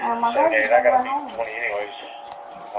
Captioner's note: radio chatter